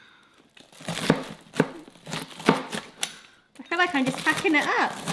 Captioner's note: pizza cutter thumps; lettuce crunches